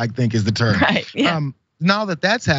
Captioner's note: laugh